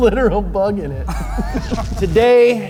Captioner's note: laughs